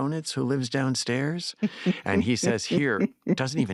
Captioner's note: chuckles